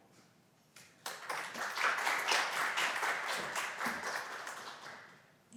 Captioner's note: applause